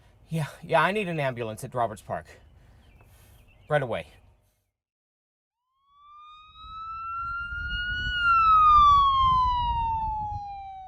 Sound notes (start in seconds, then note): 5.7 sirens blaring